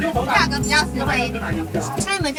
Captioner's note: haha